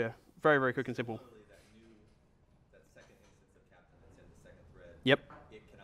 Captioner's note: voiceover